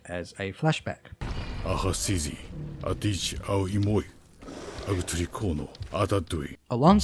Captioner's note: narration in fictional language